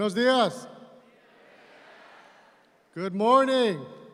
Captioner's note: audience responds